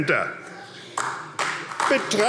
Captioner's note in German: Beifall AfD